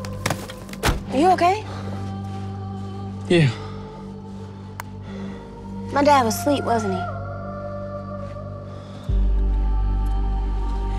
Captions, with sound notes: (door slamming) - Are you okay? - Yeah. - My Dad was asleep, wasn't he?